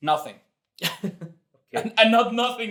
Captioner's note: laughs